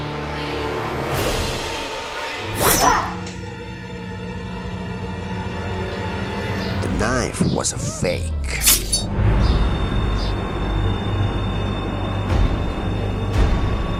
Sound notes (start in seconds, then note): 2.4 yells; 2.5 knife strike; 8.6 knife pulls out